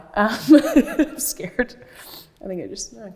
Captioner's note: laughs